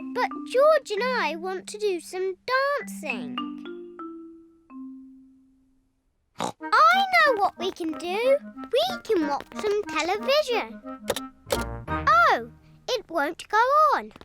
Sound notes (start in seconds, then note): 6.4 snorts